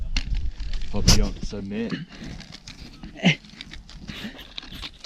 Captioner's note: laughs